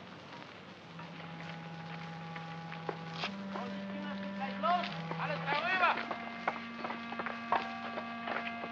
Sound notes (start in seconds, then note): 1.0 melancholy music; 4.4 foreman shouts in German; 6.4 sounds of tools chipping; 6.7 melancholy music